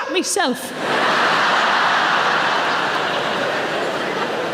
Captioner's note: audience laughing